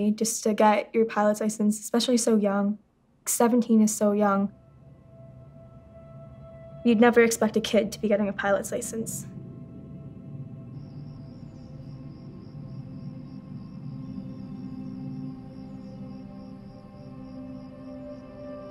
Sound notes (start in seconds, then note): 11.3 crickets chirping